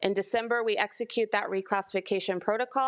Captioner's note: none